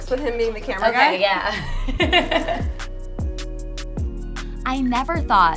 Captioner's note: laughing